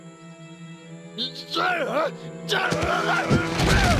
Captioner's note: shouting